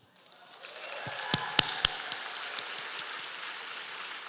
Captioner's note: applause